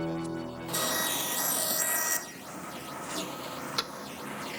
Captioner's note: dramatic music; power tools whirring